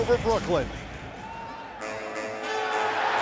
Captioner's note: crowd cheering